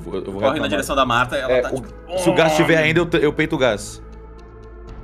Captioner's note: grunts in pain